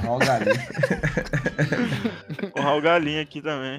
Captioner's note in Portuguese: risos